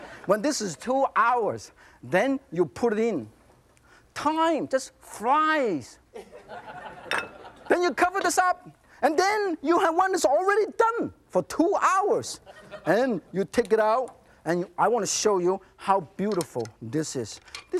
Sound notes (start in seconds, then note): 0.0 audience laughs; 6.2 audience laughs